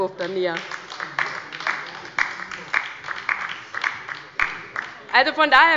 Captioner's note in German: Heiterkeit und Beifall bei der LINKEN